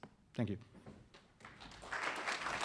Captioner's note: applause